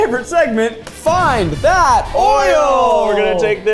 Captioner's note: graphics boom